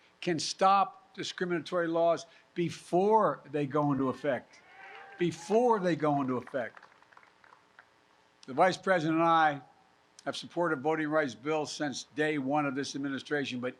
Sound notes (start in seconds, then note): 7.2 applause